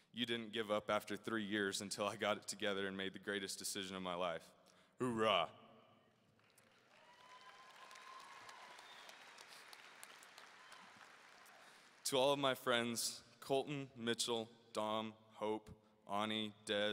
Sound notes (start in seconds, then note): 6.4 audience cheering and applauding